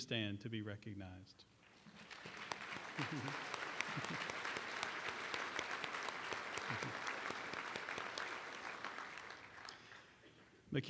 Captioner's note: applause